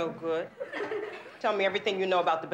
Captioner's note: students laughing